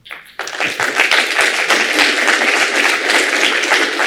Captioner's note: applause